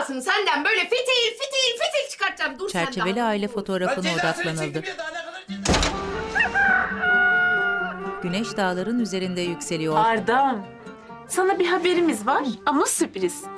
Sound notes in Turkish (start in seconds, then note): 5.6 Kapı kapanma sesi; 6.2 Horoz sesi